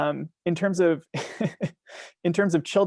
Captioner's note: laughing